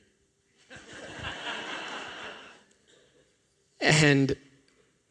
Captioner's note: laughter